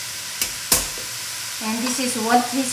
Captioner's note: hand smacks garlic